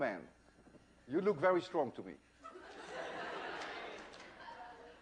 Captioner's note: laughter